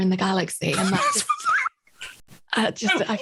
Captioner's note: laughs